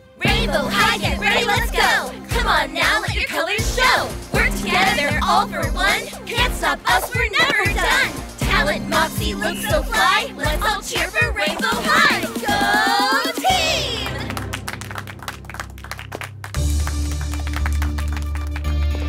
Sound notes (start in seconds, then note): 13.9 clapping; 16.4 tense music